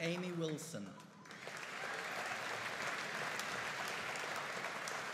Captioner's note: audience applauding